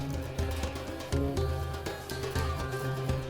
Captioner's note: none